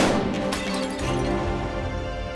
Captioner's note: gunshot; clay pigeon explodes